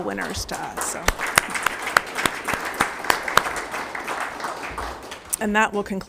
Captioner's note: members applauding